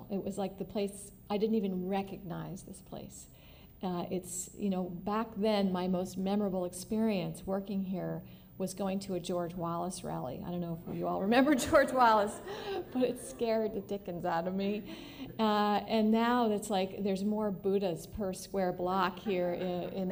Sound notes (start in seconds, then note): 10.9 laughter